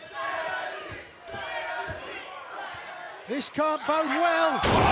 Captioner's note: fans chanting